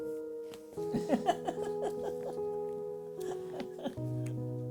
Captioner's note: laughter